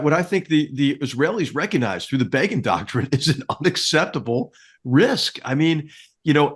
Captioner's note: laugh